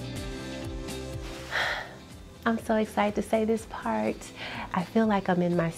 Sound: sighs

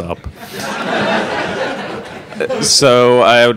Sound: all laughing

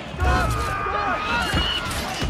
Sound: eagle screech

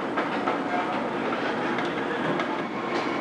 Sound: mixer whirring

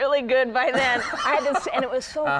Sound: Conan laughs

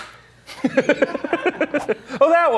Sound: laughing

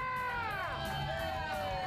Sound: audience cheering; upbeat rock music

